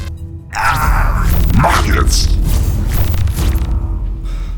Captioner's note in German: Schmerzhaftes Schreien; Dämonische Stimme